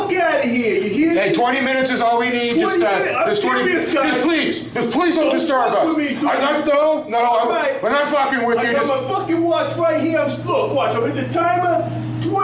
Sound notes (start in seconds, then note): 2.4 yelling